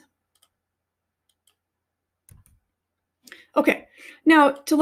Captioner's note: mouse clicking